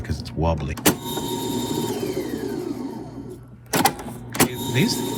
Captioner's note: tape recorder whirring